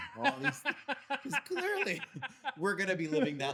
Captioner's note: laughing